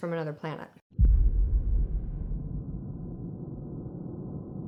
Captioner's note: air whooshing